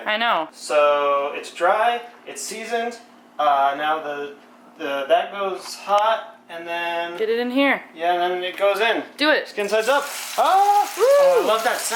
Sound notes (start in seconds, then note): 9.6 sizzling noise